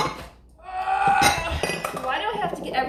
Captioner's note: grunting; dishes clanging